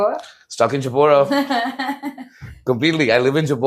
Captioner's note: laughs